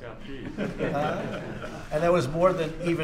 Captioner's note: laughter